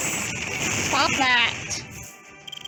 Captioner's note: missile noises